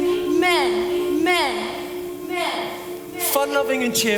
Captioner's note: voices continue to echo and repeat